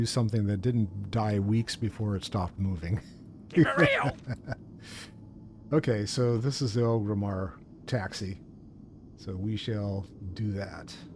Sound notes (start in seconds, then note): 3.5 laughing